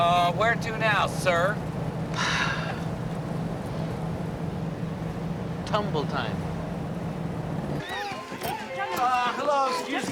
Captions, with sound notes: Uh, where to now, sir? (sighs) Tumble-Time. (children chattering) Uh, hello, excuse me?